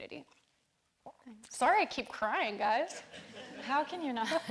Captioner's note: all laughing